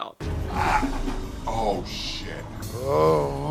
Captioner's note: groans; groans